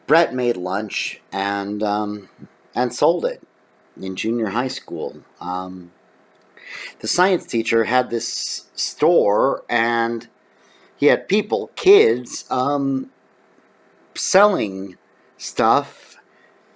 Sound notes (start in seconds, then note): none